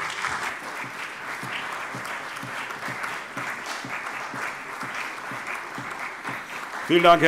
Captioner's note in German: Beifall CDU, BÜNDNIS 90/DIE GRÜNEN, vereinzelt AfD und SPD